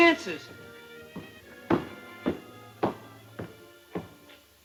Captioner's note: footsteps